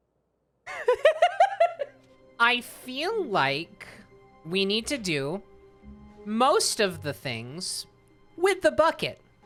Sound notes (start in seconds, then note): 0.6 laughs at the suggestion